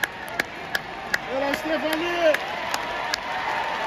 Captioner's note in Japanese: 拍手